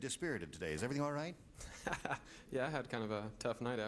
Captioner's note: laughing